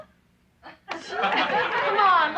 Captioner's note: laughing